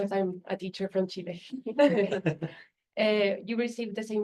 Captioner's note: laughter